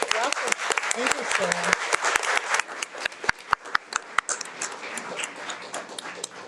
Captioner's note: audience clapping